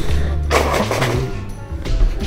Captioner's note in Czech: smrkání